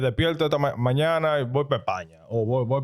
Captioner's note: speaking In Foreign Language